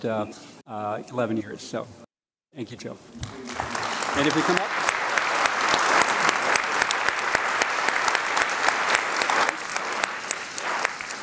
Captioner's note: applause